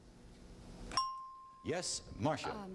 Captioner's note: ding